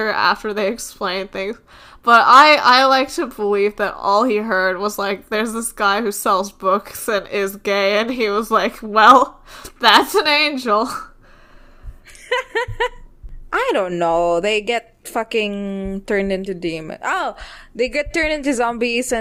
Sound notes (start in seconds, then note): 12.1 laughs